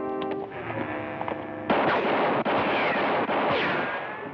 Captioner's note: gunshots